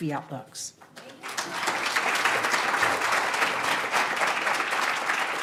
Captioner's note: audience applauds